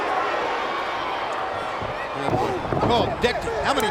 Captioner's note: crowd cheering